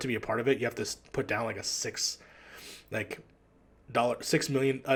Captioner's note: none